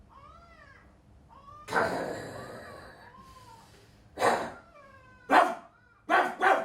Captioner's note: barks